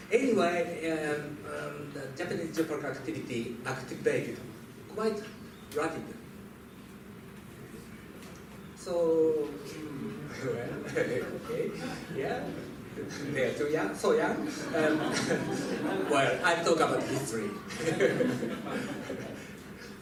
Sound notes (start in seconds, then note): 8.5 laughs; 12.3 laughter